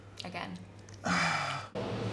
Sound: deep sigh

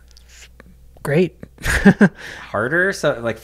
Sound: chuckles

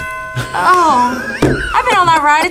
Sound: both laugh

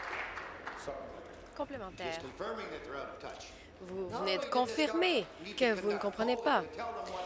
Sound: applause

